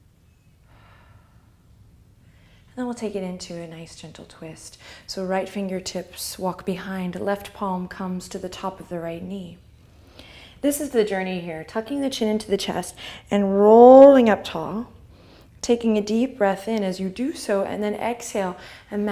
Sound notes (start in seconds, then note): 0.7 soft exhale